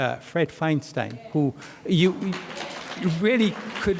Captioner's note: audience applauds